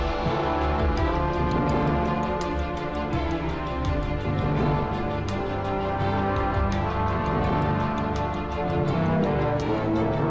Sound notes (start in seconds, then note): none